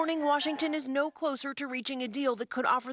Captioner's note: crowd chanting